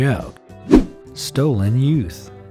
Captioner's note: image whooshing